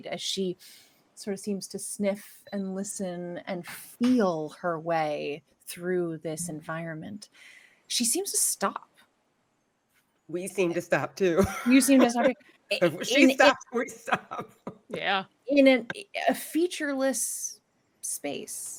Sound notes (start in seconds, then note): 11.4 laughs